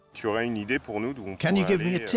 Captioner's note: speaking French